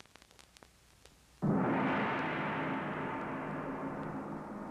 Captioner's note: gong banging